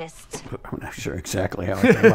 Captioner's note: laughs